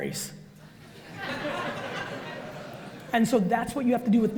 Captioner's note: audience laughs